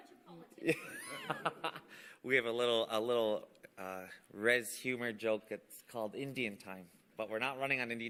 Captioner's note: laughter